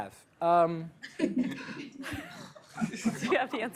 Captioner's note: laughter